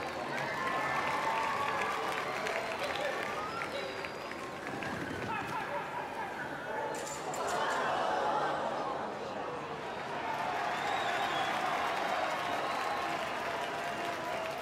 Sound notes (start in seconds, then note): 0.0 crowd cheers and claps; 7.1 crowd gasps; 10.0 crowd cheers and claps